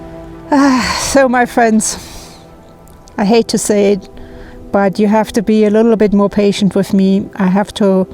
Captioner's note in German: Seufz